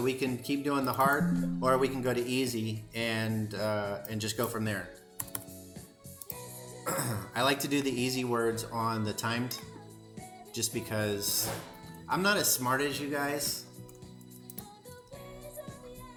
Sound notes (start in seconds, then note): 6.8 clears throat; 14.0 singing